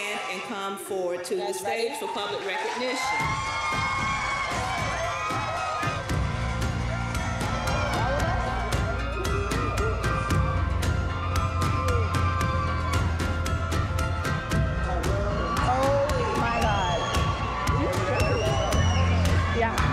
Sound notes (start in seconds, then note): 4.3 cheers and applause; 12.4 uplifting music